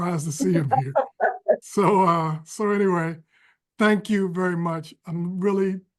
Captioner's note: laughter